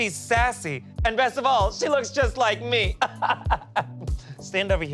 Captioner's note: laughs